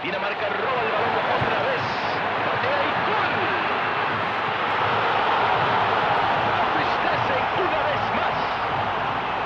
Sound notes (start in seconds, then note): 4.9 crowd roars